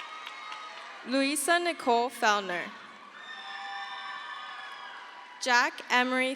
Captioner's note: crowd cheers